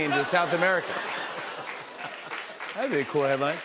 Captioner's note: applause